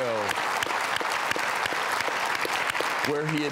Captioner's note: audience clapping